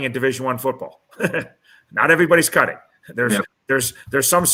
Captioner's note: laughter